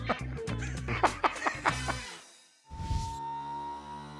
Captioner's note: laughs